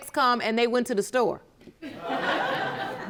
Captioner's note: audience laughing